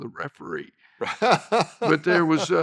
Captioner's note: laughs